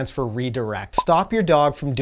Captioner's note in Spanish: estallido